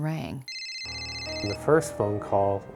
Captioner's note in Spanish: teléfono sonando